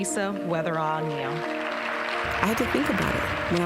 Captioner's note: applause